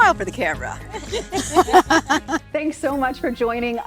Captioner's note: laughing